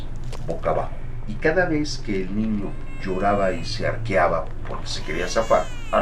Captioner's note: baby crying